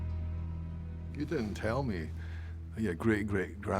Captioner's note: scottish accent